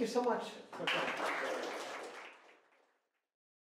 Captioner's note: applause